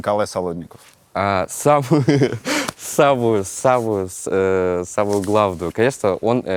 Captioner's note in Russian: смеётся